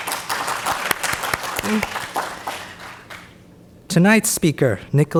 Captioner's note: audience applauds more loudly